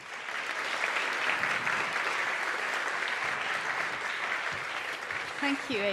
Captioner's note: applause